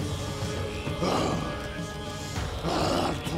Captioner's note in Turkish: Hırlama sesi